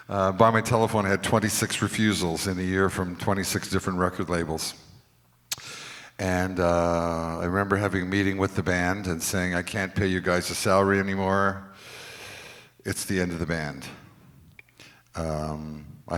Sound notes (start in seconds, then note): none